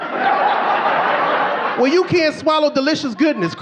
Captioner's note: audience laughing